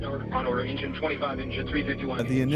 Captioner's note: radio